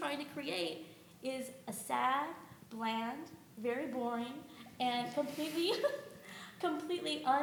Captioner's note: chuckles